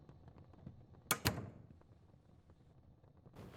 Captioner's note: door Opens